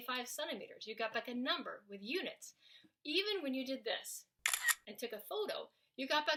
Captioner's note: snaps photo